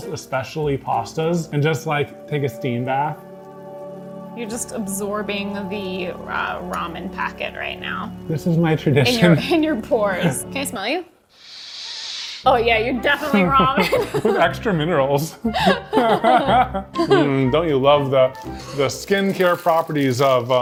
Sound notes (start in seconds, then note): 13.7 laughs